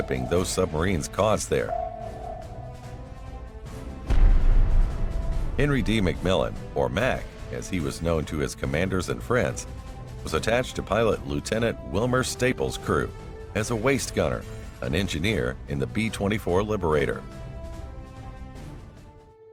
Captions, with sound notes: those submarines caused there. [bomb explosion] Henry D. Macmillan or Mac, as he was known to his commanders and friends was attached to pilot Lieutenant Wilmer Stapel's crew as a waist gunner, an engineer in the B-24 Liberator.